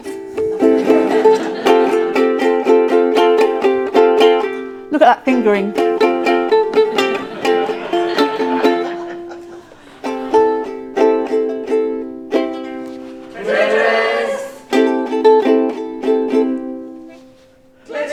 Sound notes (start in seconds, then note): 0.2 ukelele music; 6.6 ukelele music; 8.2 audience laughing; 10.6 ukelele music; 15.4 ukelele music